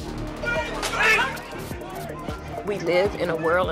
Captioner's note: police shouting